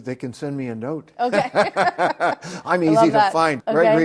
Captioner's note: both laugh